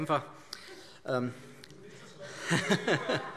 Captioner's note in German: Heiterkeit